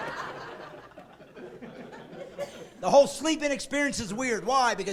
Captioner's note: laughing